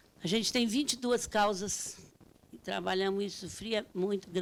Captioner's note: speaking Portuguese